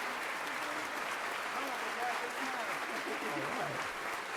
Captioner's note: audience applauds